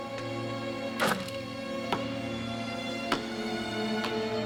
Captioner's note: hoop scrapes